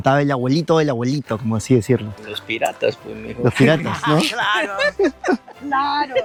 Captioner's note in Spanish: risas